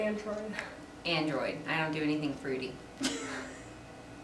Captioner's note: laughter